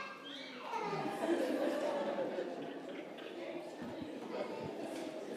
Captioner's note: congregation laughing